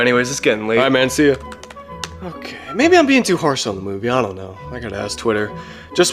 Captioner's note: typing